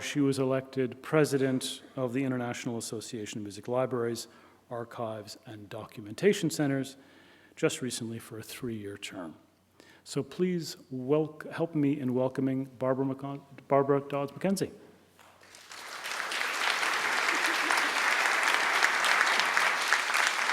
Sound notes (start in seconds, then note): 15.2 applause